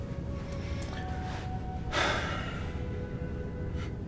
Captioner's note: sigh